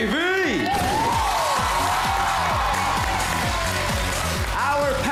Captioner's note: cheering, applause; upbeat music playing